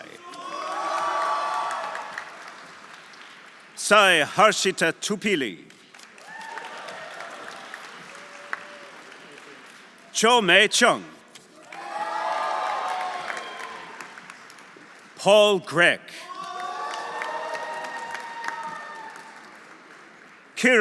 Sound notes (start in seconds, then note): 0.1 audience applauding; 0.1 audience cheering; 5.8 audience applauding; 6.2 audience cheering; 11.6 audience applauding; 11.6 audience cheering; 16.2 audience cheering; 16.3 audience applauding